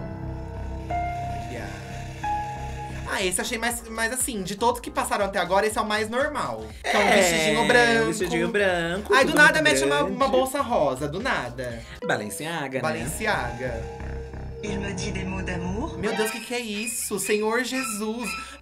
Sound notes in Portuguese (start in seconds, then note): 13.7 narração em francês